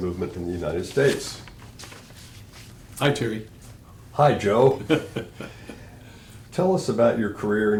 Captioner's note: laughs